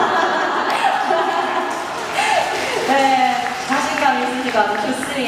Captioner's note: applause